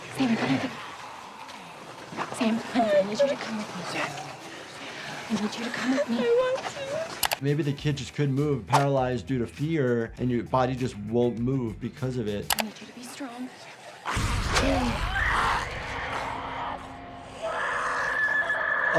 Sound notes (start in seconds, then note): 13.5 zombies snarling; 15.6 screaming